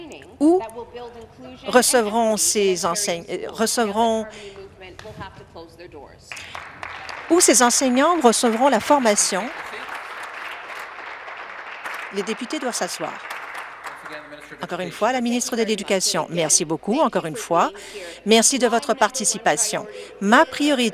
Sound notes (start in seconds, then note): 9.4 applause